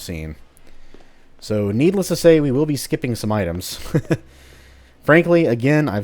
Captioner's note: chuckles